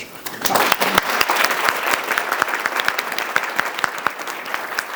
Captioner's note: audience applauds